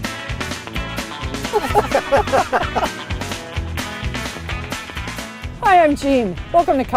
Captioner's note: laughing